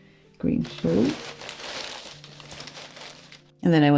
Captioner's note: more paper rustles